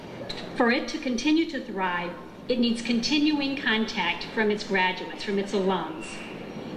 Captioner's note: none